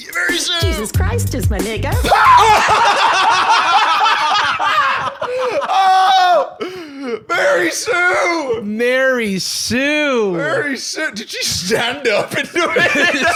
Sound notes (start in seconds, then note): 2.0 both screaming, laughing